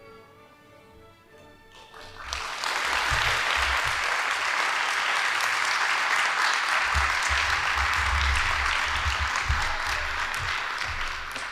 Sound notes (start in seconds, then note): 2.6 audience applauding